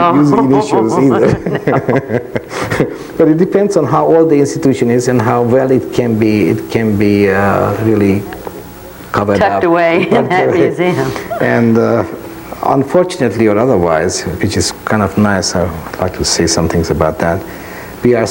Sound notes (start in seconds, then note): 1.2 laughs loudly